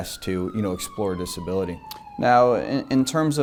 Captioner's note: sirens blaring